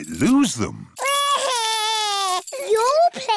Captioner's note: crying